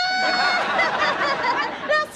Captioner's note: laughing